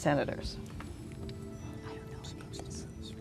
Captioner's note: whispering